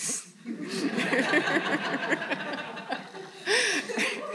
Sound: all laughing

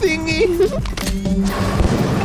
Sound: Sema giggles

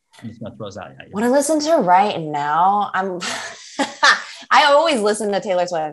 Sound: laughs

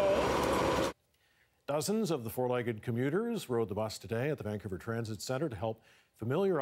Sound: motor Revving

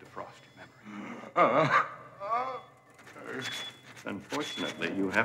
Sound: Donald moans

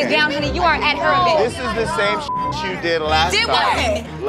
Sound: beep

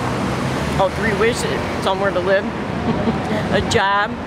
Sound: laughs

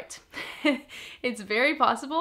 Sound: chuckles

